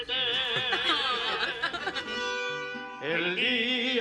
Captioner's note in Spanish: Risas